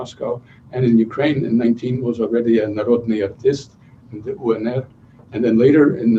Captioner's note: non-english speech